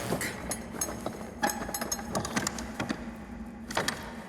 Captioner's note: door handle rattling